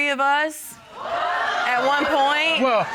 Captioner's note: audience exclaiming